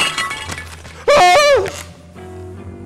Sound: glass shatters; screams

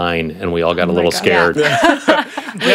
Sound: group laughs

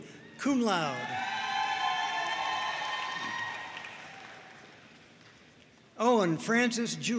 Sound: audience cheering and applauding

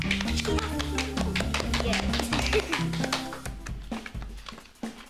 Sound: applause

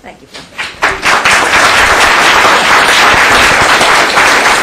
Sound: applause

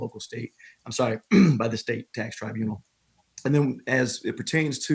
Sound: clearing throat

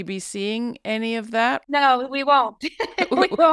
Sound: laughs

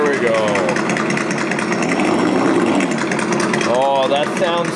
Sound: engine revving

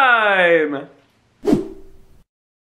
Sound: swoosh

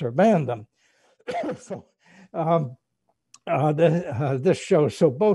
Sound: coughs

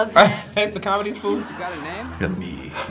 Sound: laughs

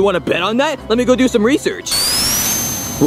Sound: sonic whirring

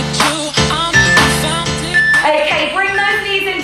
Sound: phone beeping

